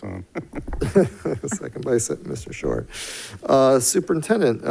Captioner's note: laughs